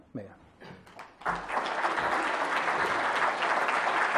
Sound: applause

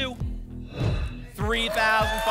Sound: whoosh

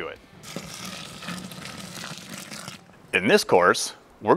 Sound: water poured into mash

